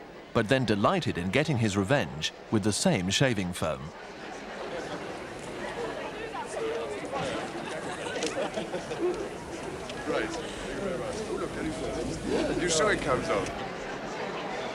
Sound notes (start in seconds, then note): 8.5 laughing